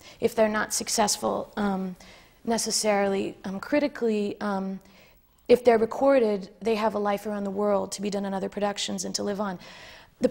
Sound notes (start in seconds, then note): none